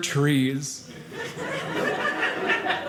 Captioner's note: audience laughing